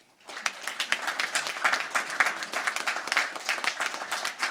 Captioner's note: crowd applauding